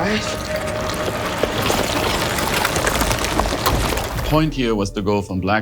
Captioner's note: liquid squelching